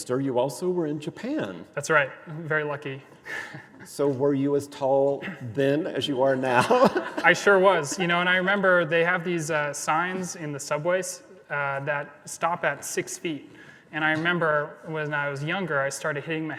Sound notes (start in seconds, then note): 3.2 laughs; 6.4 laughs